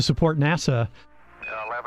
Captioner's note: radio transmission